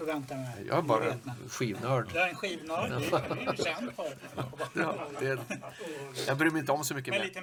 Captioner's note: laugh